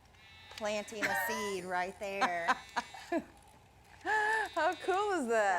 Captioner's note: laughs